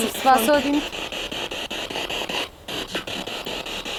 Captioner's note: noise of the spiritbox in the background